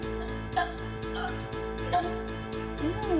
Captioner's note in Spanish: vomita